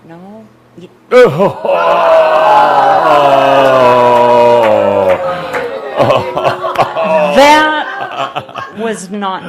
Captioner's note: sighing; audience says “Ohhh”